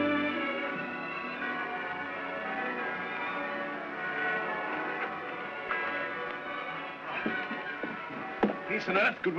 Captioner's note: bells ringing; ominous sentimental music